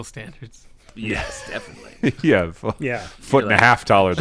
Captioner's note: laughter